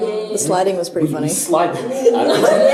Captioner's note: laughter